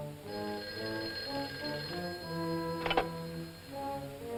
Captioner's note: phone rings